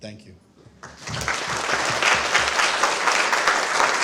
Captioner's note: applause